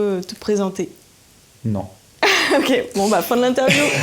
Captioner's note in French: Rires